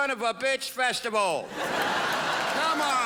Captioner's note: crowd laughs